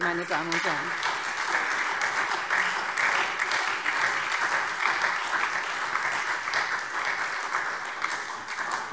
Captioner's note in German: Beifall SPD und Freie Demokraten